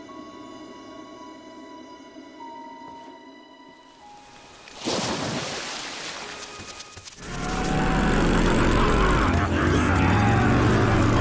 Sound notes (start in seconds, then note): 4.2 splashing; 7.4 laughing